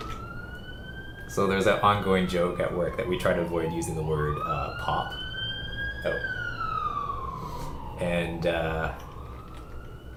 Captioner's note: sirens